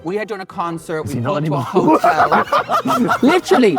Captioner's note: group laughing